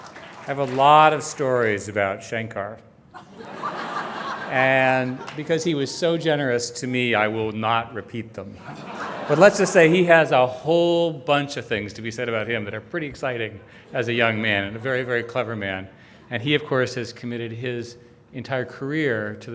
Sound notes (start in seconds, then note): 3.1 audience laughing; 8.5 audience laughing